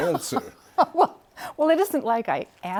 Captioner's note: laughter